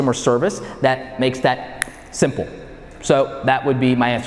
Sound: snaps fingers

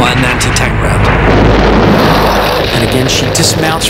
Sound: explosion booms

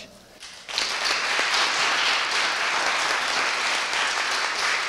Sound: audience applauding

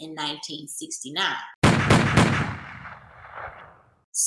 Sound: multiple gunshots

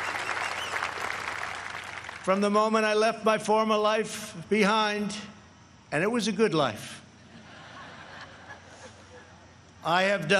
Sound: applause

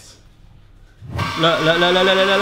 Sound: mixing noise

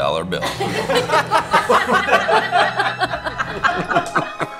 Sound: couple laughing

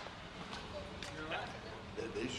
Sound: voiceover

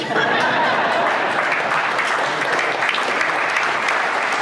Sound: crowd laughs; clapping

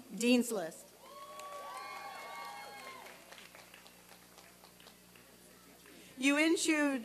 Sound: applause and cheering

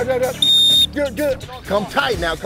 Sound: whistle

